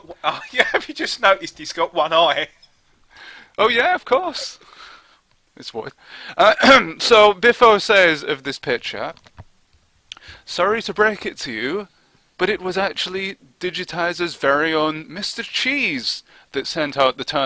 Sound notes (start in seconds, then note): 6.4 coughs